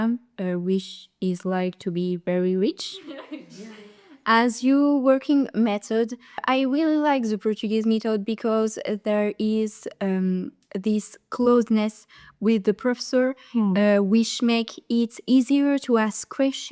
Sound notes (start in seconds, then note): 3.0 laughters